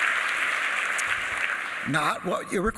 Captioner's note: applause